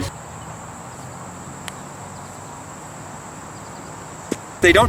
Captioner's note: birds chirping